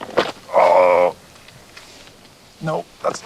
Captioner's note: groans